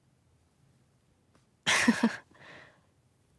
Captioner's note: chuckles